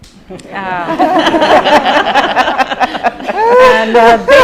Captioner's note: laughter